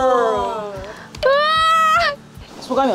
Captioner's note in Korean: 으아아악